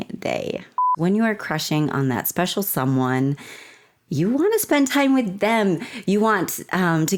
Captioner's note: blooper beep